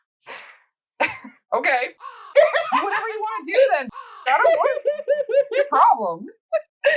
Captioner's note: caw